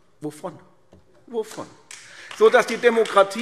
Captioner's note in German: Beifall AfD